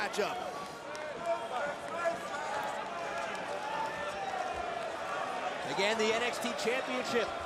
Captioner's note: crowd chatter